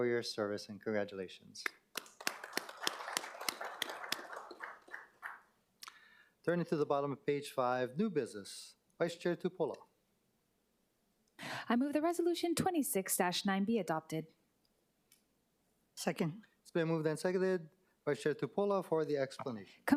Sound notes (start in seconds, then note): 5.8 applause